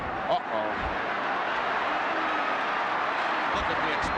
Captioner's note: crowd yelling